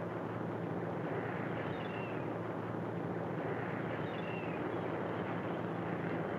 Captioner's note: boat hums; seagulls caw